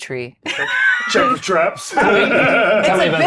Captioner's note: everyone laughs